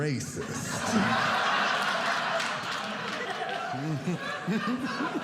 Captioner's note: audience laughing